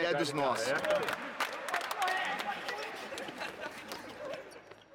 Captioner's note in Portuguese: risos